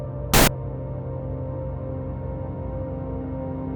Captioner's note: static crackling